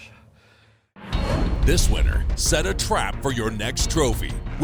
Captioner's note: voiceover